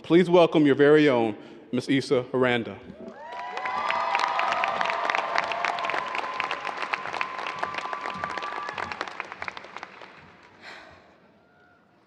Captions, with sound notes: please welcome your very own, Ms. Ysa Aranda. (audience cheers and applause)